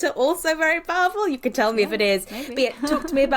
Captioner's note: laughs